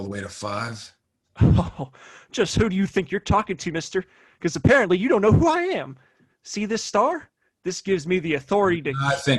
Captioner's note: chuckles